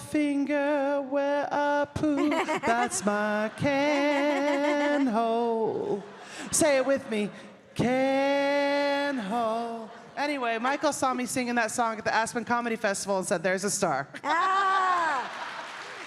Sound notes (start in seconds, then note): 2.0 audience cheering; 5.2 audience chattering; 5.2 gentle string music